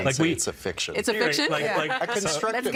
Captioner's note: laughing